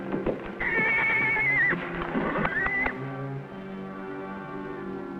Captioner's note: horse whinnying